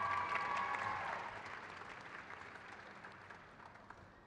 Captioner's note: crowd claps